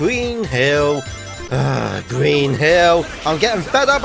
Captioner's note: sighs